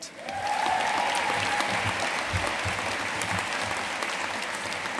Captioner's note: audience cheering and applauding